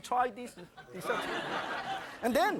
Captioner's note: audience laughing